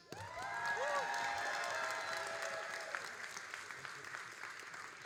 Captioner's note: all applauding and cheering